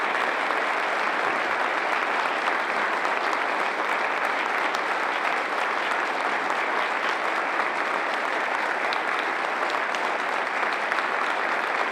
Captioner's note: applause